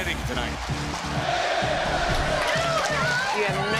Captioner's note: crowd cheering